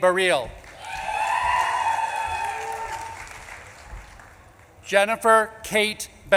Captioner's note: audience claps and cheers